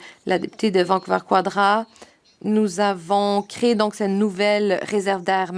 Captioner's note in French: voix de l'interprète